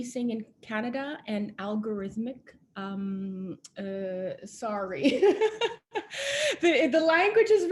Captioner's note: laughing